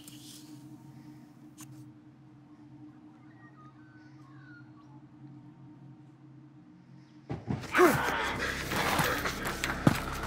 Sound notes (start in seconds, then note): 7.3 thumps